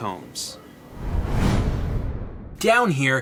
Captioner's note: thud!